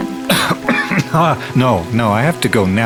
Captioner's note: coughs